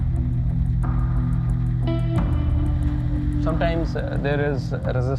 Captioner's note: none